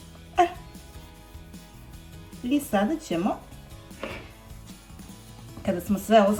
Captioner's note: coughs